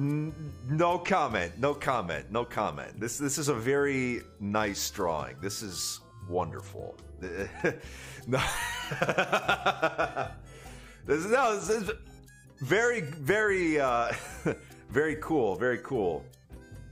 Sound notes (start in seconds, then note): 8.4 laughs; 14.2 chuckles